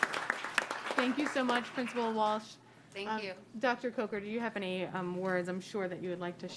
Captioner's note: applause